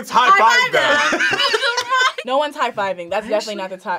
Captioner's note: React laughs